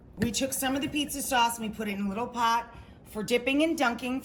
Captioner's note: none